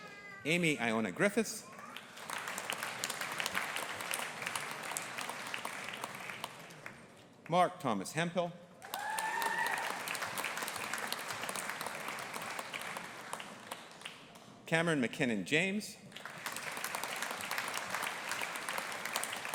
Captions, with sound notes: Amy Iona Griffiths. (AUDIENCE APPLAUDING) Mark Thomas Hemphill. (AUDIENCE APPLAUDING AND CHEERING) Cameron Mackinnon James. (AUDIENCE APPLAUDING)